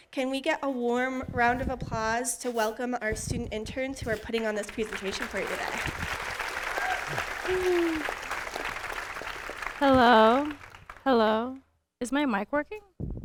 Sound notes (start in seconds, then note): 6.3 audience applauding